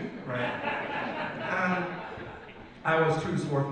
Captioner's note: audience laughs